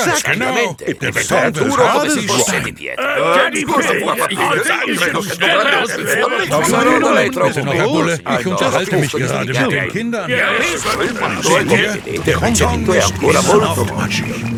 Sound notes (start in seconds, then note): 11.3 stutters